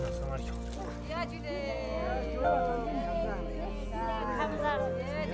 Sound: Ladakhi spoken audio

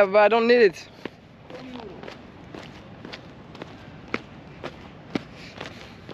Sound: speaking in foreign language

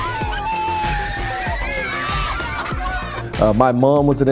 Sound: children laughing; energetic pop music

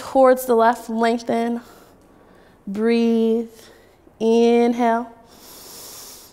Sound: inhaling

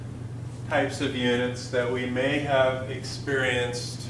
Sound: none

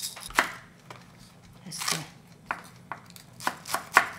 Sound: chopping

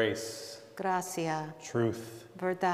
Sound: speaking in Spanish

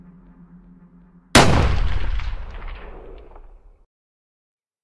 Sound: gun shots firing

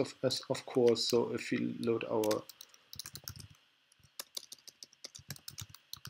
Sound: typing

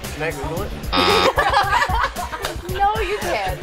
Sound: laughs

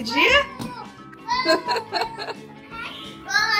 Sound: laugh

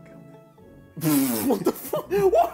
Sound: laughs

